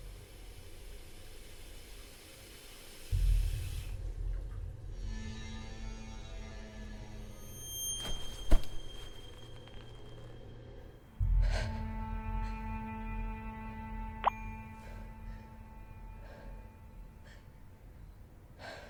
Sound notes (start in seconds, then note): 11.2 breathes deeply; 14.2 phone chimes